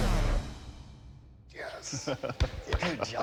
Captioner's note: laughs